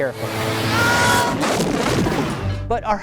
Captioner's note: screams and blows up